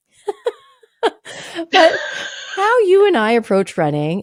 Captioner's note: both laughing